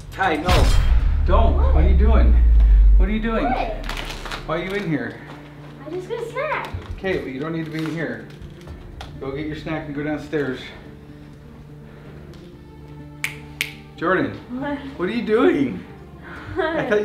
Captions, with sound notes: - Ty no, don't what are you doing? - What? - Why are you in here? - I just got a snack. - Okay but you don't need to be in here. Go get your snack, and go downstairs. (snaps fingers) Jordan? - What? - What are you doing?